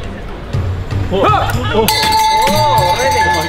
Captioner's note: yelling; bell ringing